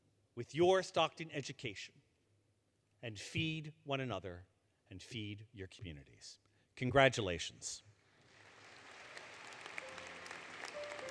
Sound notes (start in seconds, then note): 8.2 applause; 9.9 applause, Music